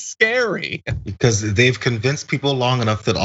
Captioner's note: laugh